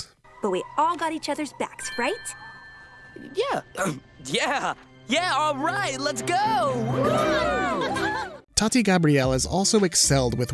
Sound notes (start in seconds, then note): 3.8 clears throat; 6.2 all cheering